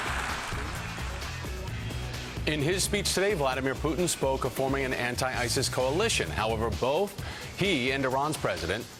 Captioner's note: applause